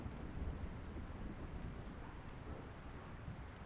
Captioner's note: none